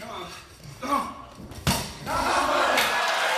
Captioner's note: clunk; cheering and applause